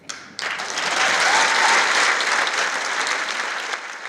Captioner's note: applause